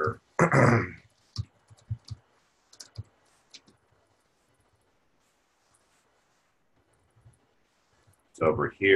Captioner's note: typing Sounds